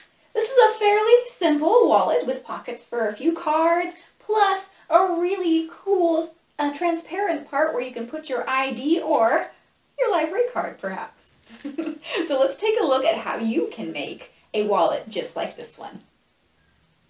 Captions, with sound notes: This is a fairly simple wallet with pockets for a few cards, plus a really cool transparent part where you can put your ID or your library card, perhaps. [Laughs] So let's take a look at how you can make a wallet just like this one.